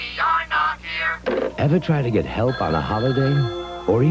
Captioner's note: sfx: telephone ringing in background